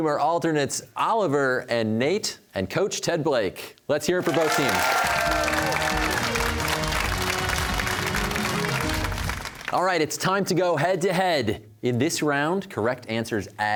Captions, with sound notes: are alternates Oliver and Nate and coach Ted Blake. Let's hear it for both teams. (cheers and applause) All right, it's time to go head-to-head. In this round, correct answers add ten points